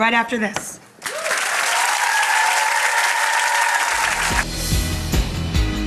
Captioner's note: audience clapping and cheering; upbeat music